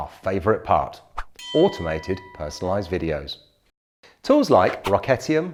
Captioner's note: bell dings